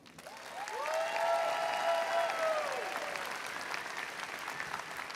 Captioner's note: audience cheering and applauding